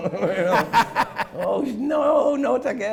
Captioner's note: laughing